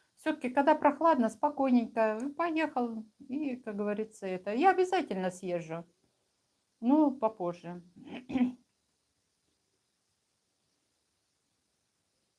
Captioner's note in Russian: откашливается